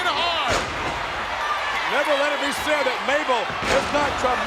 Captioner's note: applause